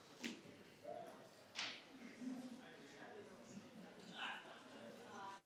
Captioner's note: participants chattering